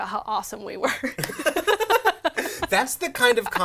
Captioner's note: laughs